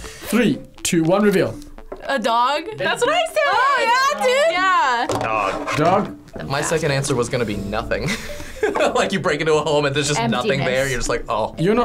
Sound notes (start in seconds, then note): 8.0 laughs